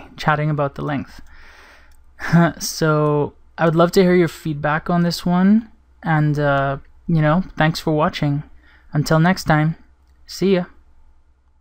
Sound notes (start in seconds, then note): 2.2 chuckles